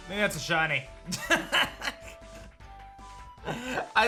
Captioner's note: laughs